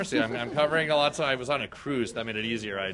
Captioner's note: laughter